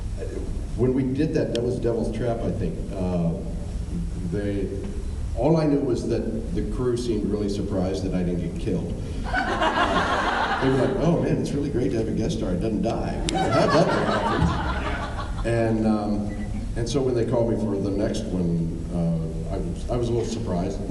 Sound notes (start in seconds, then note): 9.3 laughs; 13.3 laughs